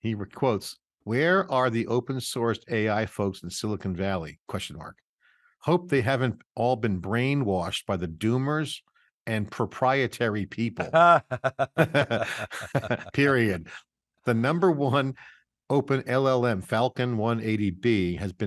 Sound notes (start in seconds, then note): 10.7 laugh